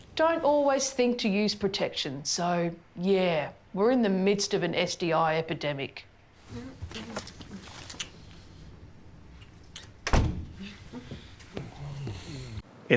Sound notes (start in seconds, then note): 6.5 lips smacking; 10.0 door clicks